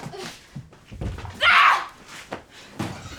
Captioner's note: screams